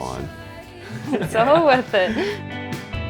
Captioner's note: laughs